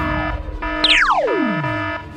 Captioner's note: zap